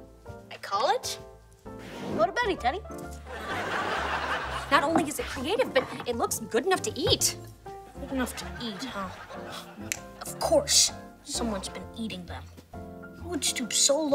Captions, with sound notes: I call it... go to beddy teddy. Not only is it creative, but it looks good enough to eat. Good enough to eat, huh? [gasping] Of course, someone's been eating them. Who would stoop so low as to take